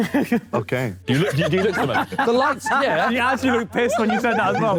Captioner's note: Sidemen laugh